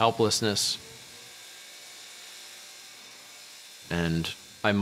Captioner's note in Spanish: Zumbido